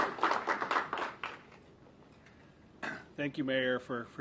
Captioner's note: applause